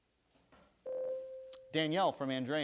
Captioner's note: bell rings